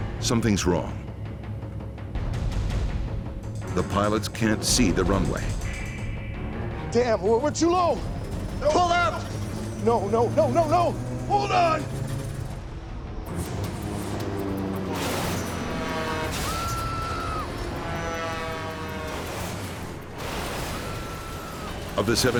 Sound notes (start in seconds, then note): 0.3 voiceover; 14.8 engine droning; 16.2 passengers screaming; 19.4 fuselage scraping; 19.4 person screaming